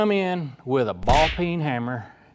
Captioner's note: gunshot